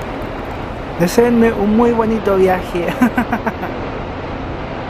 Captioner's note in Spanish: risas